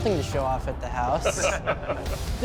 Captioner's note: laughter